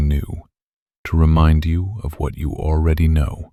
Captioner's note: soft voice